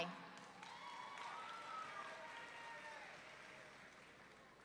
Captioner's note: audience cheering